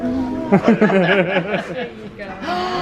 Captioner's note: both laugh